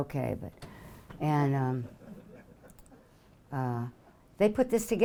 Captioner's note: audience laughing